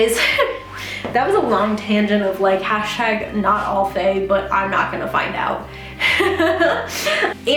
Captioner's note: laughs